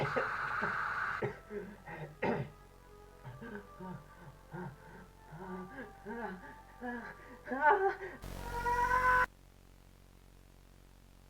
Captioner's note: gas hisses